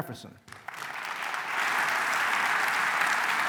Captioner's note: applause